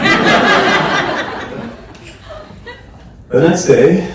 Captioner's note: audience laughs